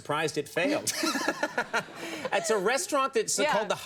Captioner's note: laughter